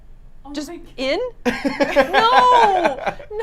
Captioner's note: laughs